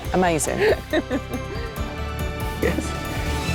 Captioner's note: person laughs